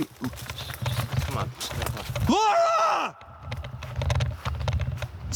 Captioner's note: screaming